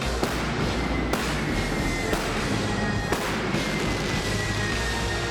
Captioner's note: pyro whooshing and popping